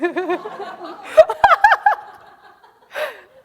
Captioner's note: laughing